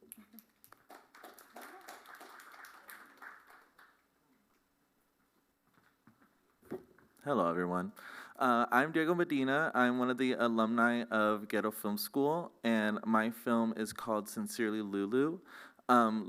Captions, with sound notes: [applause] Hello, everyone. I'm Diego Medina. I'm one of the alumni of Ghetto Film School, and my film is called Sincerely, Lulu.